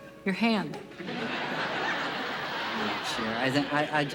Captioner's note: laughter